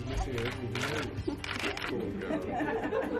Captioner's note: cameras clicking